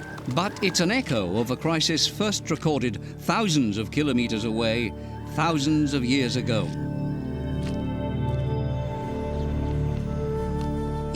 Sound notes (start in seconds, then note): 8.4 chimes